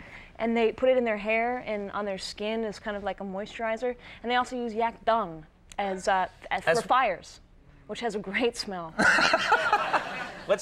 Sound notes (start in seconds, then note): 9.0 Conan laughs; 9.0 chuckles; 9.0 audience laughs